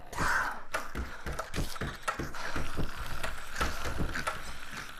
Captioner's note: clacking; deep breathing